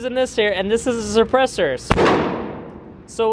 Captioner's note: gun shot fires